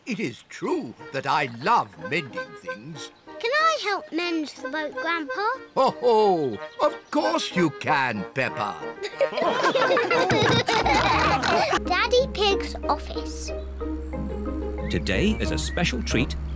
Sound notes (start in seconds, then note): 6.0 chuckles; 9.0 all laugh